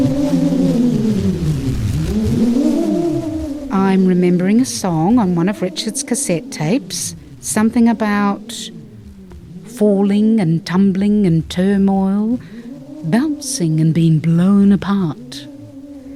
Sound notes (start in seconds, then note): 2.3 wind